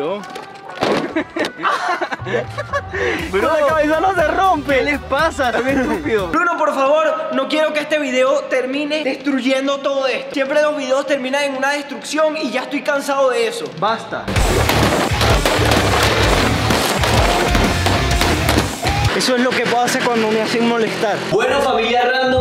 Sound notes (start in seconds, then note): 4.3 laughs